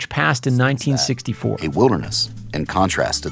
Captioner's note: soundbite of archived recording